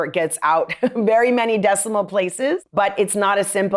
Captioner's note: laughter